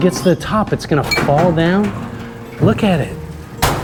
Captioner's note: conveyor belts whirring